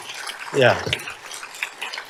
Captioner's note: applause